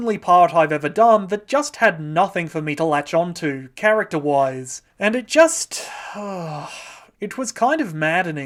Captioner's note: exhales